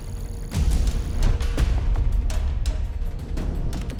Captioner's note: none